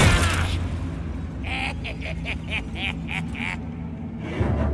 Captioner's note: goblins laughing